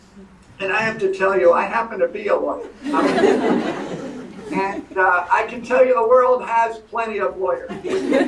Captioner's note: laughter